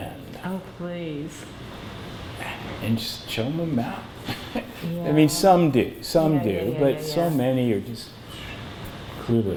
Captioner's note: laughs